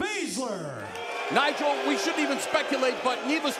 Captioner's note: crowd cheering